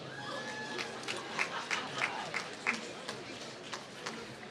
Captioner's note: applause